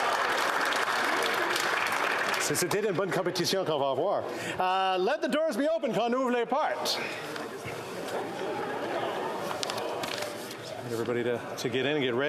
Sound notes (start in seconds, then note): 0.0 cheering and Applause; 0.0 applause